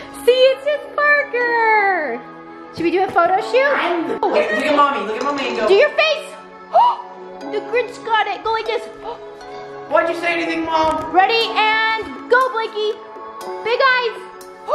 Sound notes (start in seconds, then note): 6.7 mom whooping